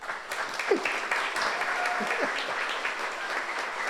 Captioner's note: audience applauds